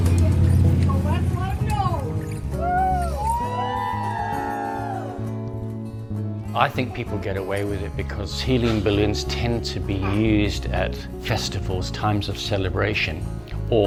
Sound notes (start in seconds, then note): 2.5 crowd cheering